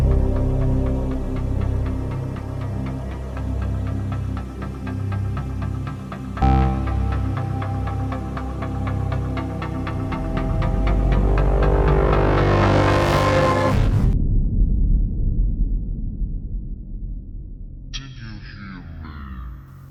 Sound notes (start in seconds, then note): 13.6 low rumbling; 17.3 fading computer voice